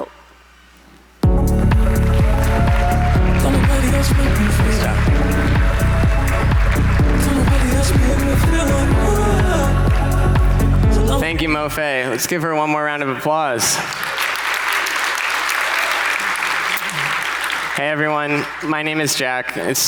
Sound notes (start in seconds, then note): 0.3 upbeat music; 13.6 audience applauding